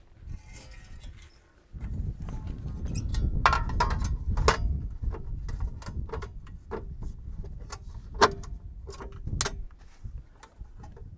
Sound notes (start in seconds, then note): 0.2 metal scrapes; 2.2 metal clanks